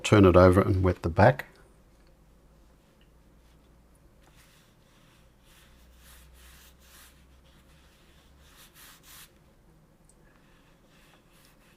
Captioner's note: silence